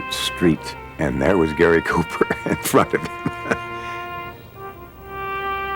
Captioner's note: laughing